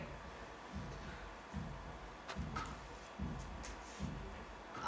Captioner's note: heartbeat sound